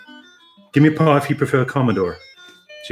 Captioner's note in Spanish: dicho en acento americano